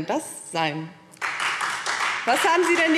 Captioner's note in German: Beifall Freie Demokraten